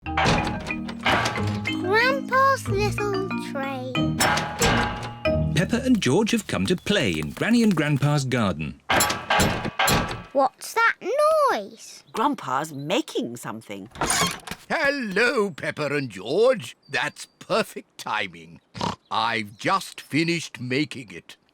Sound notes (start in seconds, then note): 8.9 clattering and clanging; 18.8 snorts